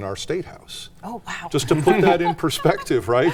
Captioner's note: laughs